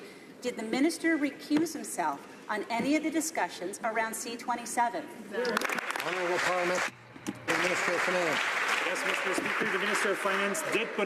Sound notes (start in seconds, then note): 7.4 some Applause